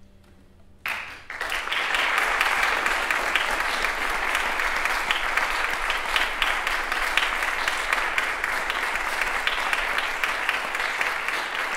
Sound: applause

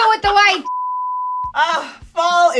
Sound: beeping

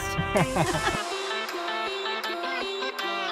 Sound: laugh; techno music

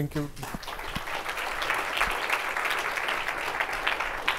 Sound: applause

